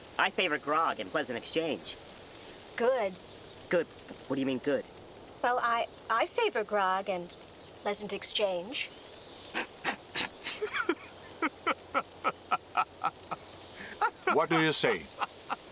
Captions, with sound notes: - I favor grog and pleasant exchange. - Good. - Good? What do you mean good? - Well, I favor grog and pleasant exchange. - (snorting) (laughing) - What do you say?